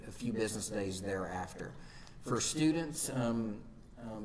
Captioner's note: none